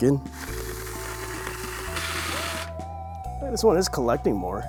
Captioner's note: drill whirring